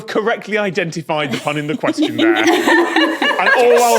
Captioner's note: guests laughing